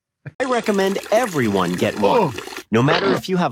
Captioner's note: AI Voice